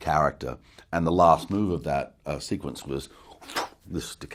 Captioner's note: spits